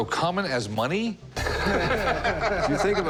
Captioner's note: laughter